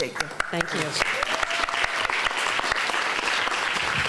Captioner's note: applause